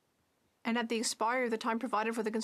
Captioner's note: speaking French